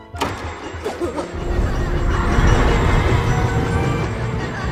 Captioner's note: children laughing; stammers